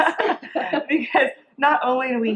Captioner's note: women chuckling